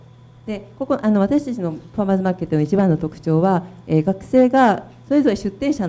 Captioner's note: speaking foreign language